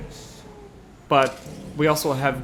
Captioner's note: door clicks; wind howls; Doctor whispers